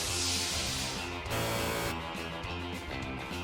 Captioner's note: buzzer